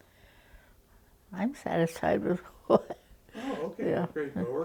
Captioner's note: chuckles